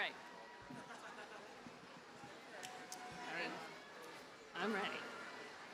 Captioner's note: audience members laughing